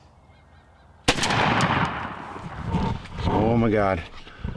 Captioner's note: rifle shot echoes